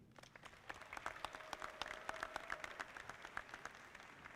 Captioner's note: audience clapping